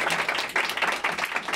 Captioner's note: applause